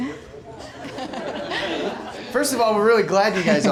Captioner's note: everyone laughing